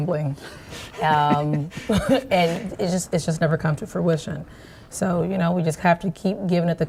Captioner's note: laughing